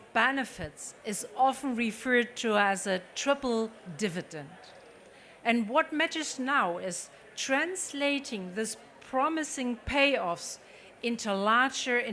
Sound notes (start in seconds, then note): none